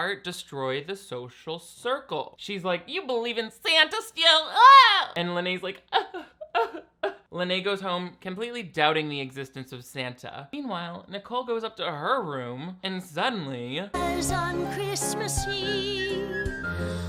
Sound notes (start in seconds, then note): 5.8 fake sobbing